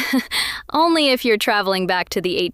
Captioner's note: laughing